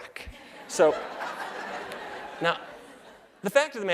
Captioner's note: laughter